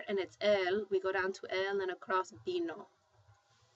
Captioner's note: spanish